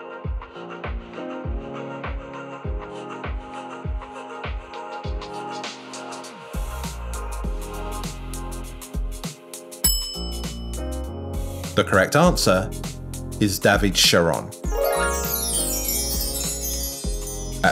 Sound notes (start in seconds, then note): 0.4 upbeat music; 9.8 bell rings; 14.6 bright chimes